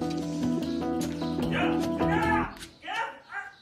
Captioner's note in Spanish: voz de hombre en off